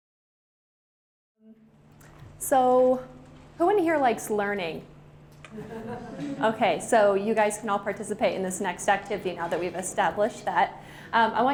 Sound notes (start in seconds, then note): 5.5 laughter